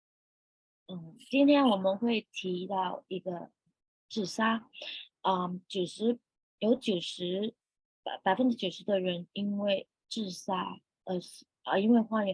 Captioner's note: speaking chinese